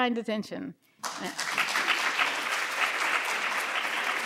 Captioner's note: applause